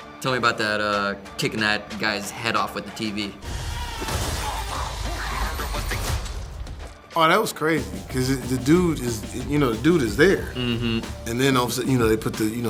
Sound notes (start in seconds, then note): 3.7 electronics sparking